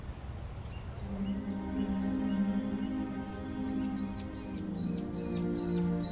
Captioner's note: birds chirping; solemn music